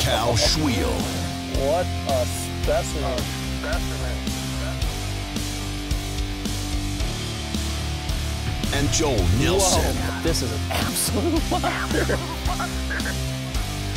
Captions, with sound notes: With Cal Svihel. - [Voiceover] What a specimen. (upbeat music) - [Voiceover] And Joel Nelso. - [Voiceover] This is an absolute monster.